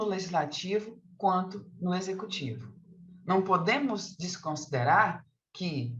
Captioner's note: continues speaking in Portuguese